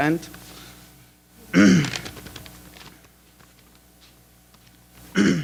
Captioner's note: clears throat